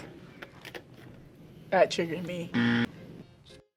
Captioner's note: buzzer rings